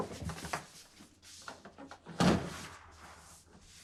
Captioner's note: door closing sound